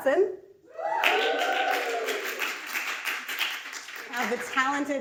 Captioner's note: audience cheers